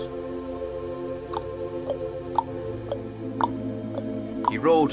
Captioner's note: hooves clopping